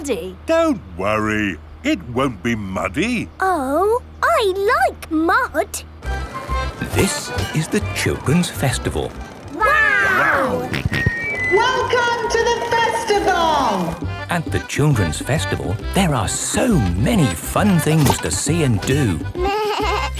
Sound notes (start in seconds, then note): 10.7 on microphone; 12.9 jolly folk music